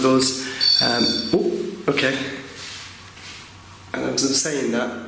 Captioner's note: REM-POD beeping